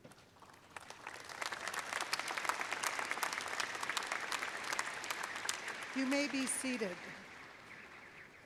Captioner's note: applause